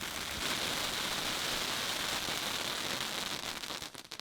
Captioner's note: fireworks crackling